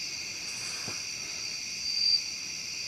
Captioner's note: footsteps pattering; insects chittering